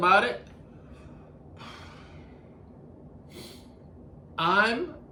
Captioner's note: breathing in and out